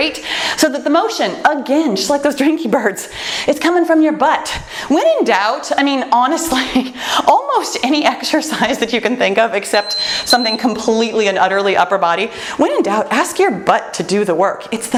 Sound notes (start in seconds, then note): 9.7 timer beeps